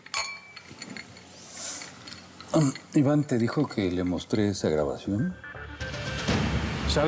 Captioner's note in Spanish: choque de vasos